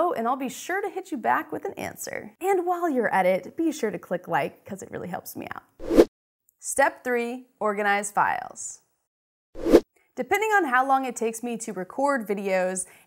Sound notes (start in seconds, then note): 5.8 air rushes; 9.2 air rushes